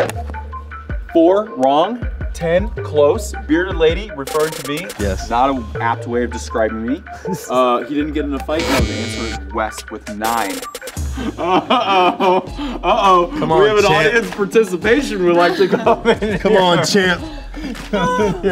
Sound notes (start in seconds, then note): 11.0 laughing